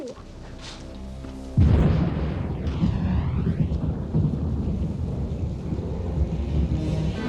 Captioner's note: deep ominous music; thunder crashing